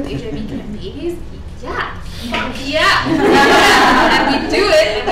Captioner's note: participants laughing